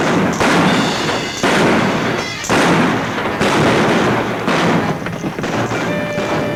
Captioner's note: guns bang; exciting music